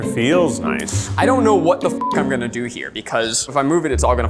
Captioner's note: beep